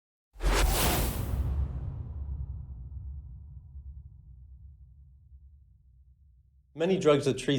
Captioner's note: whooshing sound